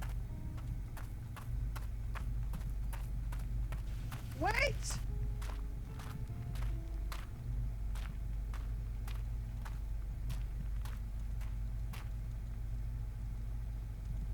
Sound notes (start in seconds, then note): 1.4 footsteps approaching